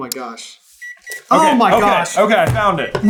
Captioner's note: gentle beeping